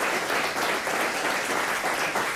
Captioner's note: applause